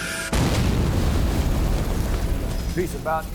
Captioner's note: bomb exploding